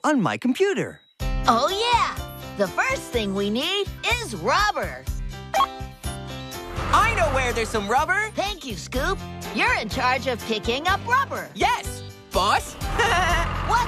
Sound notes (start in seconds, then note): 5.5 computer Beep; 12.8 chuckles